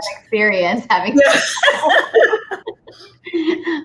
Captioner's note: both laughs